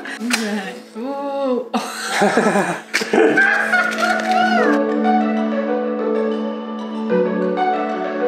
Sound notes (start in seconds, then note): 3.3 maniacal laughter